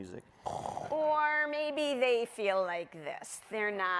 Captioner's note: snores